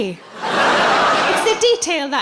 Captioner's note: laughing